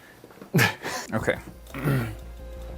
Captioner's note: laughter; clears throat